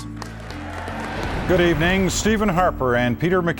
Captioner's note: applause